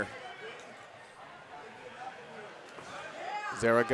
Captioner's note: audience cheering